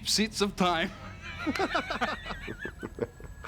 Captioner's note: laughing